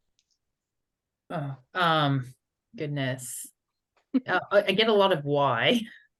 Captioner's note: laughs